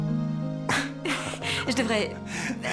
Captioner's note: shy laughter